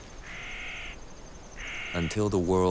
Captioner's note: bird screeching